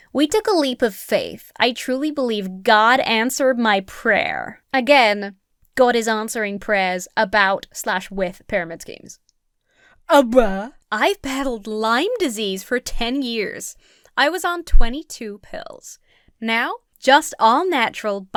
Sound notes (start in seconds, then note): 10.0 splutters